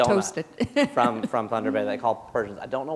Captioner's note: chuckle